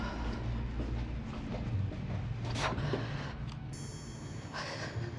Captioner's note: Jane exhaling